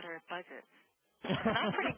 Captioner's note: laughing